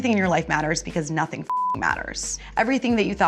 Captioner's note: beep